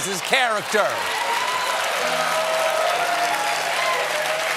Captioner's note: audience cheering